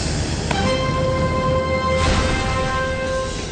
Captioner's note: crash